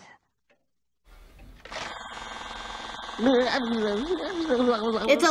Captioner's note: mayor blubbering; pencil sharpener buzzing